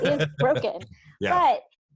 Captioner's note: laughs